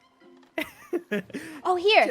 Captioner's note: laughs